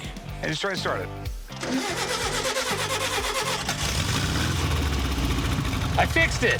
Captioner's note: engine starting